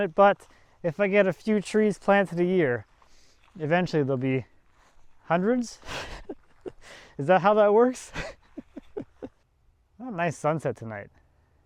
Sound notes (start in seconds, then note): 5.8 chuckles